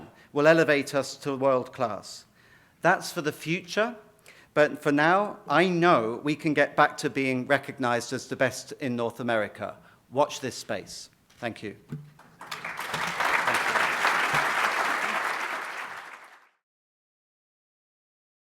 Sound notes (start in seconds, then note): 12.1 applause